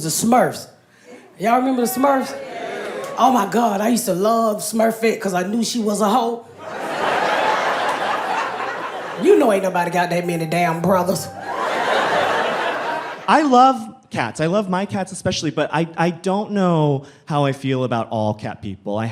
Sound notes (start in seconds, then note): 2.1 audience assenting; 6.5 audience laughing